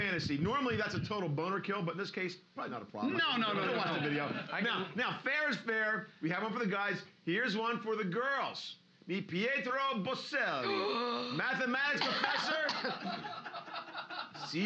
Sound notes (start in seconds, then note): 10.6 loudly gasps; 11.9 loudly coughing